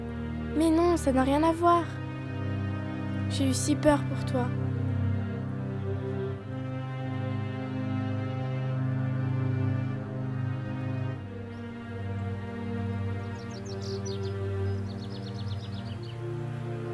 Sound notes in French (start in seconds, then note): 13.1 Sifflements d'oiseaux